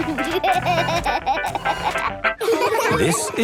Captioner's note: giggling; upbeat music